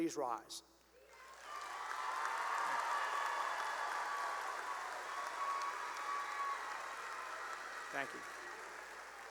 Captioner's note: cheering and applause